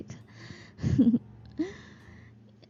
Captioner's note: laughs